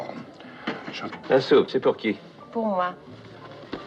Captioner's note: speaking French